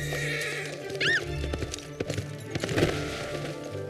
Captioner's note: screams